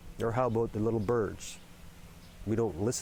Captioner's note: birds chirping